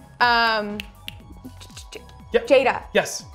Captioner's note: finger snapping